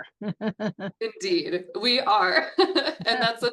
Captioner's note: chuckles; chuckles